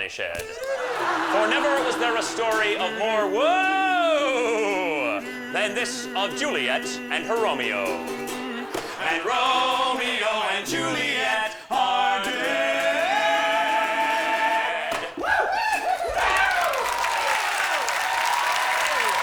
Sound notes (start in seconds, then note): 15.0 applause and cheering